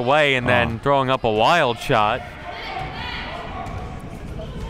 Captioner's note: crowd murmuring